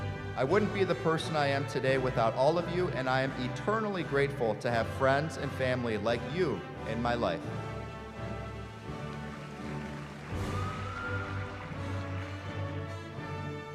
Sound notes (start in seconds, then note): 7.7 applause